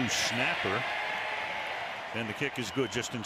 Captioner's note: cheering